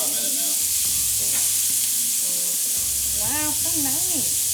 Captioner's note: steak sizzles